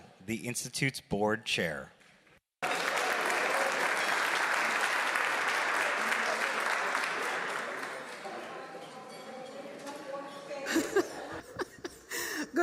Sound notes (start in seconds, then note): 2.6 applause; 10.6 chuckles